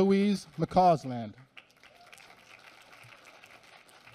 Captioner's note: applause